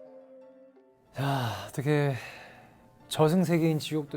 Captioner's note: sighing from the beginning